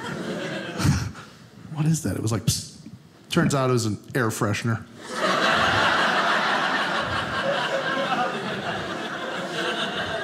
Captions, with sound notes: What is that? It was like "Psst." Turns out it was an air freshener. (audience laughing)